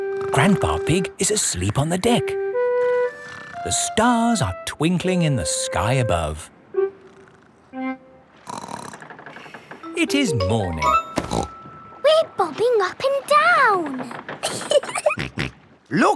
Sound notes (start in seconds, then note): 8.4 snorts; 11.2 snorts; 14.4 giggling; 14.6 snorts